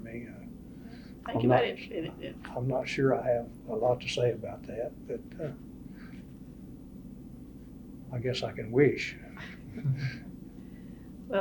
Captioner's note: laughs